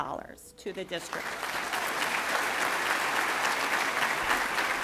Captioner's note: applauding